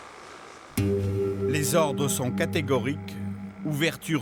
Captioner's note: French spoken audio